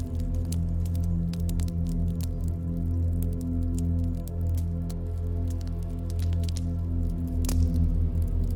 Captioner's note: crackling fire sound